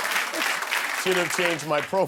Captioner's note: laughter and applause